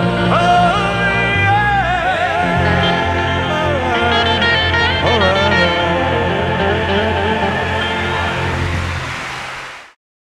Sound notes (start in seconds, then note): 8.2 audience cheering